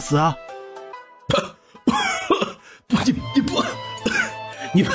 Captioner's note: cough